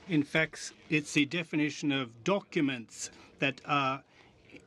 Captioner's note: speaking French